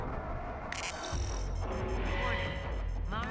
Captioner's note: cannon beeping